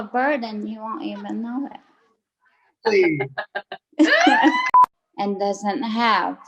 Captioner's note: laughs